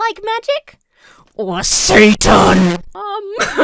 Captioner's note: microphone peaks; laughs